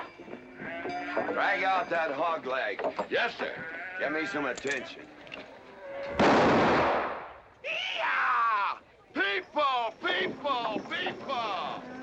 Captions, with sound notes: Drag out that hogleg. - Yes, sir. - Get me some attention. (gunshot) - Yee haw! People, people, people!